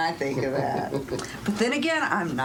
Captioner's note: chuckling